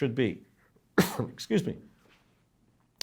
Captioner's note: coughs